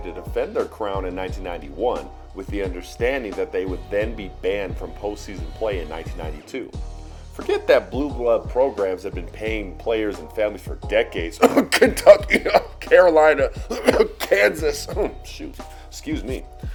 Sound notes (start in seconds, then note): 11.4 cough